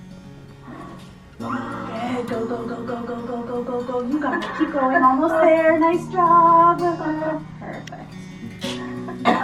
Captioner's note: blowing out a deep breath and PFT tech coaching; coughing